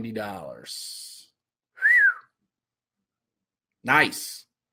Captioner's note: whistle